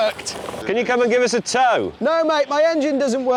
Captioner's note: engine stalls